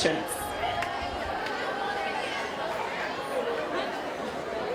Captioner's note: indistinct chatter